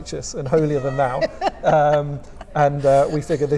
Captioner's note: laughing